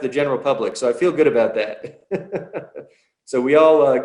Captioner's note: laughs